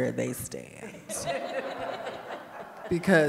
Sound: audience laughing

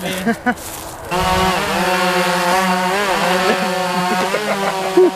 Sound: drone whirring

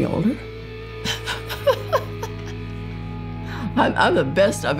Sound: chuckles

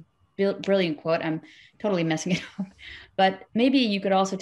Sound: chuckles

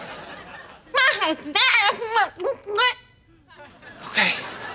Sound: talking gibberish

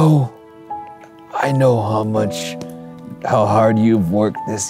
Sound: calming piano music; imitating old man

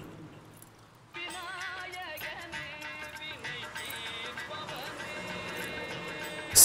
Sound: phone rings

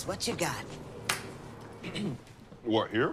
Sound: clears throat

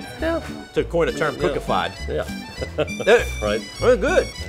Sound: laughing

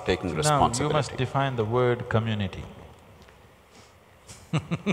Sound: laughs

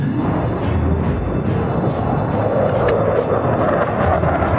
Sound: jet engines roaring

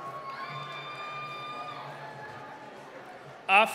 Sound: cheering

